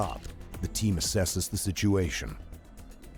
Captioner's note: voiceover